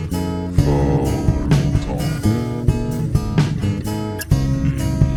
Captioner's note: speaking in foreign language